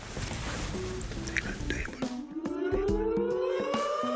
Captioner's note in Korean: 사이렌 소리